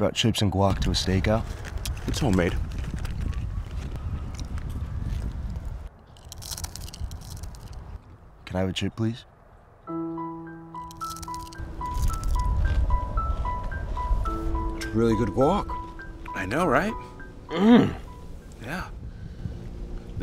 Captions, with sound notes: You brought chips and guac to a stake-out? - It's homemade. (crunching) - Can I have a chip, please? (piano music) (crunching) It's really good guac. - I know, right? - Mmm, yeah.